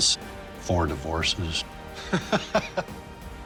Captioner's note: laughs